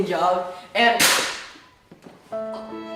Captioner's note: gunshot